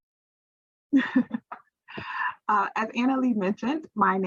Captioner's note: chuckles